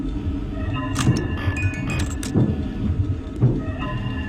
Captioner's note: banging